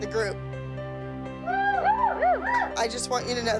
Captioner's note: cheering